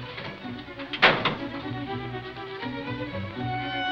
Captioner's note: door slamming